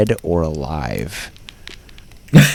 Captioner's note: laughs